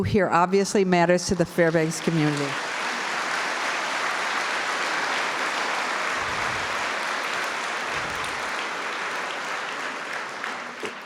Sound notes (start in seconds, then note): 3.0 applause